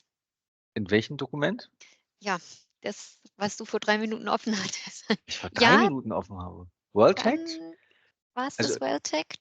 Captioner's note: laugh